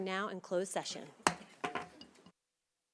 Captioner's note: gavel hitting dais; silence